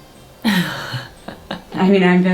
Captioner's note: laughs